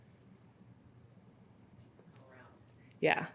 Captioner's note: speaks faintly